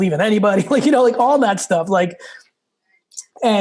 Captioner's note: laughs